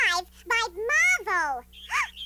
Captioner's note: gasps